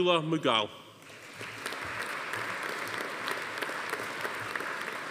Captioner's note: audience applauding